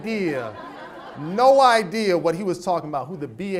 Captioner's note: audience laughs